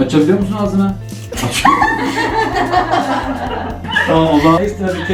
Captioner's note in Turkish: Gülüşmeler